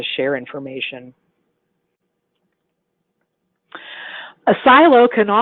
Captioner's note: silence